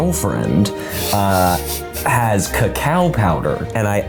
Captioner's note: laughs